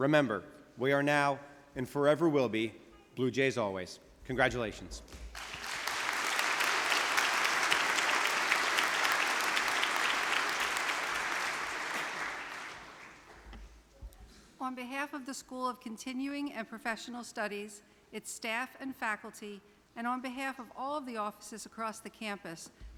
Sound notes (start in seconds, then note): 5.3 audience applause